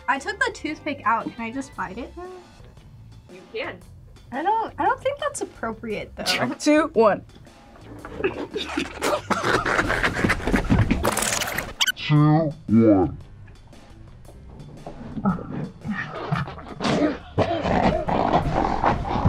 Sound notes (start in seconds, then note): 7.9 both laugh; 11.0 tape rewinds; 15.8 slowed laughing